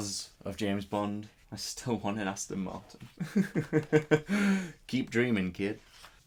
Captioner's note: laughs